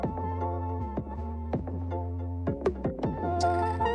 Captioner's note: none